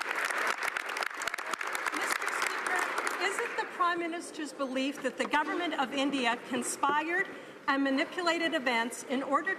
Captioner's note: some Applause